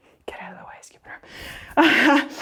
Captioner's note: laughs